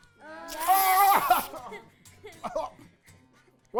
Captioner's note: screaming